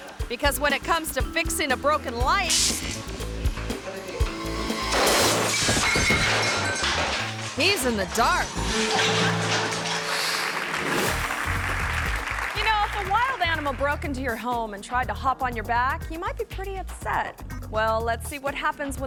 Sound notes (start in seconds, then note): 4.7 light exploding; 9.9 audience applauding